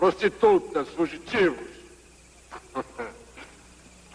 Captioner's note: chuckles